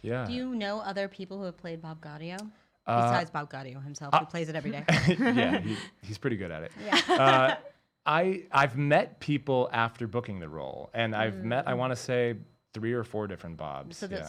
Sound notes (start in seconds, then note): 6.7 laughs